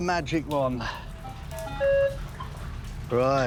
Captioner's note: beeping